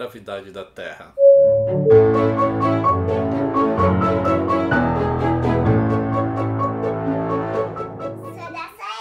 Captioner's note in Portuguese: campainha